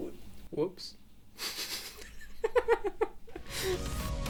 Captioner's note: chuckles; upbeat music